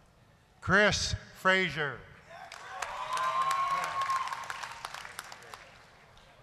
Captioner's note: applause, cheering